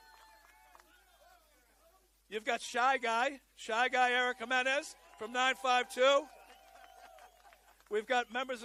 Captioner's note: cheering and applause